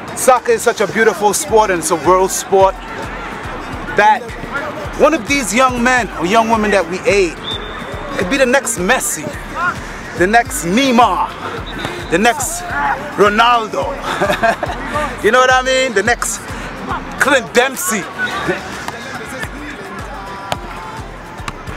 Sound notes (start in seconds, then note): 13.9 laugh